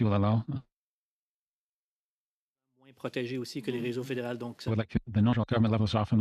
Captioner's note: speaking French